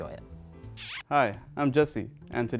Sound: kissing

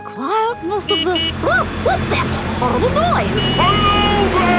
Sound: honking

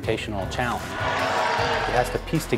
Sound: cheering

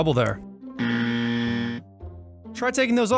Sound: buzzer dings

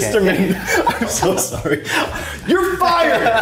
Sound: both laughing

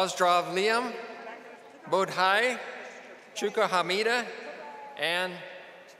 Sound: speaking foreign languages

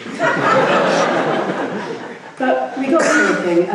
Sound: laughing

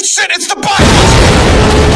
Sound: explosion and roaring

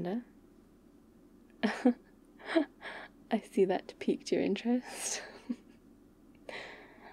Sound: laughs

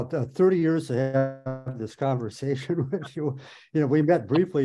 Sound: laughs

